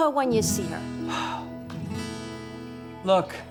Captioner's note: sighs